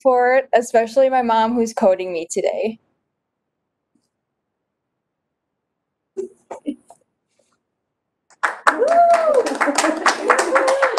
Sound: cheering

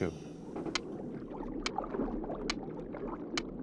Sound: seal clicking

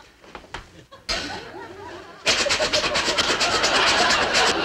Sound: scraping noises

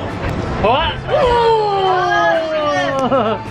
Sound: shouting

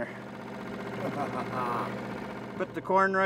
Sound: chuckling

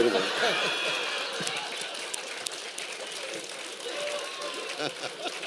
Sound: laughter and applause

